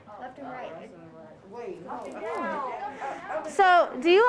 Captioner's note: students chattering